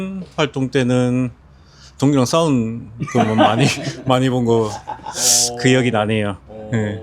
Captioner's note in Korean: 웃음; 콧방귀